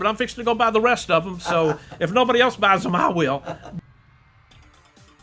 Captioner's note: laugh